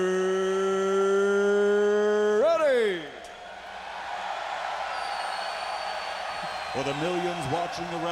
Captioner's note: applause